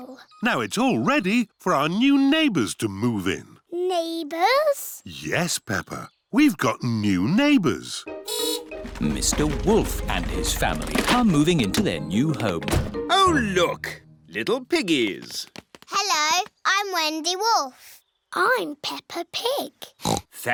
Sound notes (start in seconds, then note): 7.7 horn beeps; 20.0 oinks